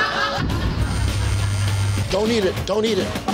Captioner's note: phone vibrating